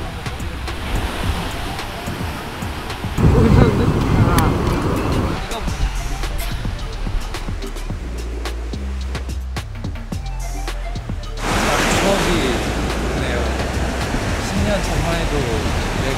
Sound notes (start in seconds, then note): 6.3 haha